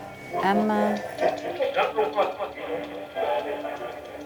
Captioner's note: static and muffled voices coming from radio